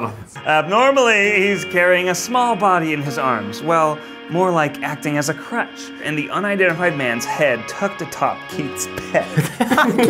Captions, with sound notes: Abnormally, he's carrying a small body in his arms Well, more like acting as a crutch and the unidentified man's head tucked the top Keith's pec-(breaks off into laughter)